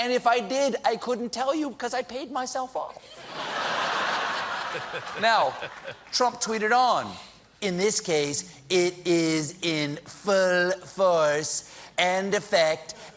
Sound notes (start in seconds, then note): 3.1 laughter